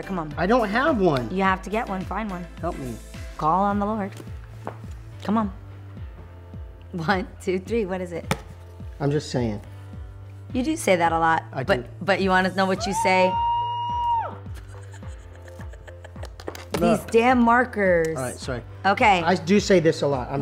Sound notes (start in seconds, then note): 12.8 screams in a high pitch